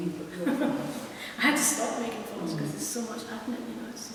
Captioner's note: laughs